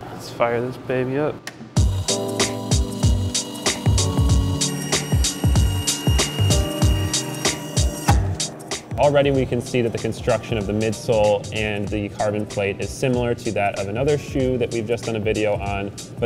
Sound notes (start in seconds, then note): 2.3 upbeat music; 4.8 saw whines loudly